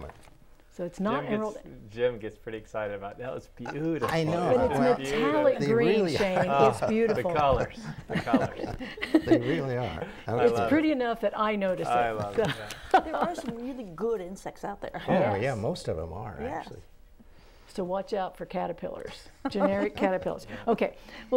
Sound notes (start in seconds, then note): 7.7 laughing